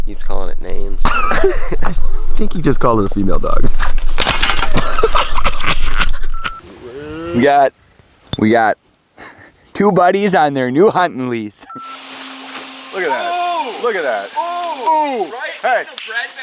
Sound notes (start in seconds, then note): 3.8 crash; 4.7 laughs; 11.6 beep